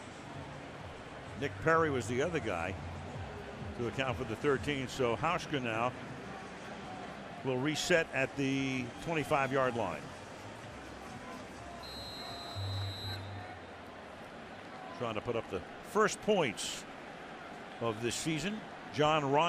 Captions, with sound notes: Nick Perry was the other guy to account for the 13. So Hauschka now will reset at the 25-yard line. [whistle] Trying to put up the first points of this season.